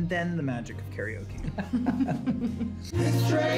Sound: all laugh

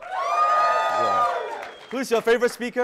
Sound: audience cheering

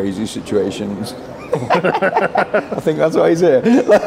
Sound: everyone laughing

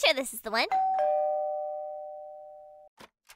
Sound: doorbell Rings

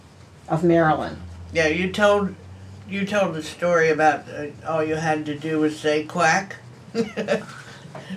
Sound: laughs

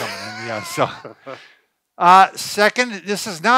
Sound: laughs

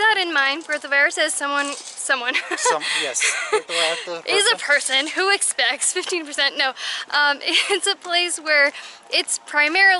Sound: laughter

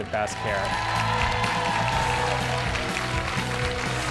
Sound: cheering

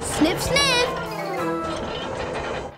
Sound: squeaking

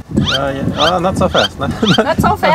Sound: wipers swashing

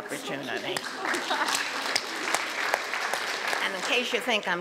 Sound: audience claps

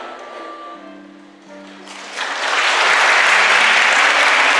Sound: applause

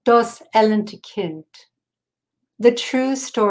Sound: speaking in foreign language

